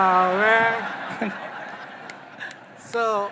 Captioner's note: audience laughing